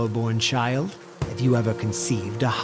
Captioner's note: thud